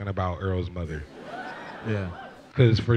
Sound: laughs

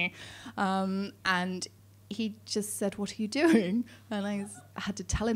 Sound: laughing

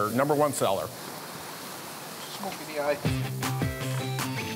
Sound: meat sizzling; upbeat music

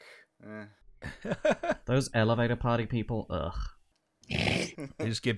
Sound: laughter; laughter

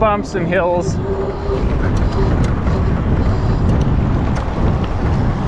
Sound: bike motor revving

